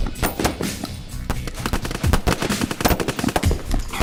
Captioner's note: sounds of gun play increases